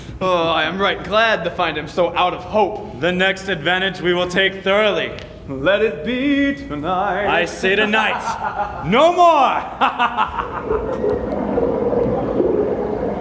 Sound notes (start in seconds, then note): 9.3 laughing